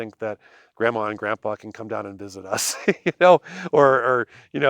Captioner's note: laughs